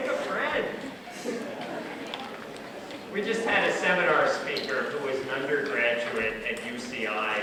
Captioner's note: background chuckles